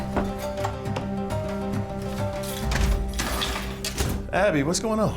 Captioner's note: dramatic music continues; door slamming